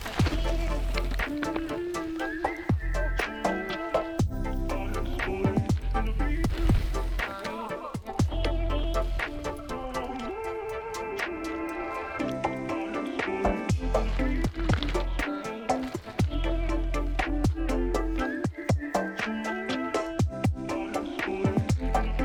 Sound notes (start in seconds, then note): 0.0 bike tires on bracken; 7.0 cheering; 13.7 bike tires on bracken